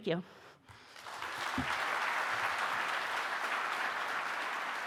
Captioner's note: audience applauding